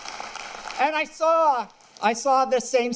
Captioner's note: applause